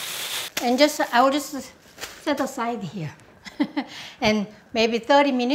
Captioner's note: chuckling